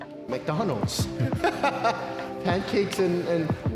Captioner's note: laughing